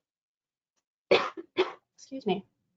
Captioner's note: coughs